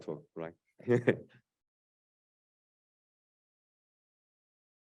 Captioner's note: laughs